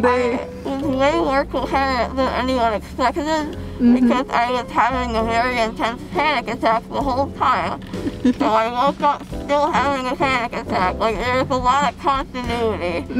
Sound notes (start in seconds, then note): 7.9 laughing